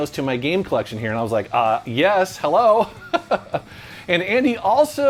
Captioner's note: laughs